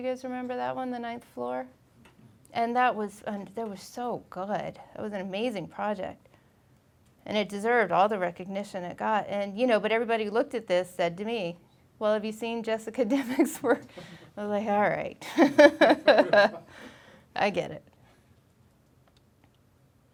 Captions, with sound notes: do you guys remember that one, The Ninth Floor? That was so good, it was an amazing project. And it deserved all the recognition it got and you know, but everybody looked at this, said to me, well have you seen Jessica Dimmock's work? (laughing) I was like all right. (laughing) I get it.